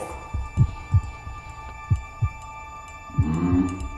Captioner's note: heartbeat